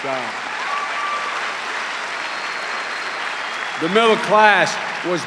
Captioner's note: cheers and applause